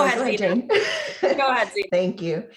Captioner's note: laughs